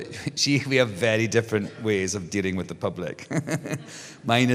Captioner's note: laughs